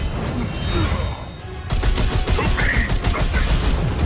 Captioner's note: characters grunting